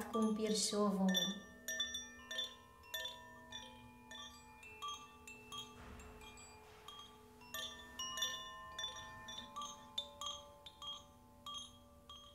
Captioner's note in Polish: dźwięk dzwonków